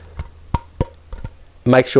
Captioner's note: tapping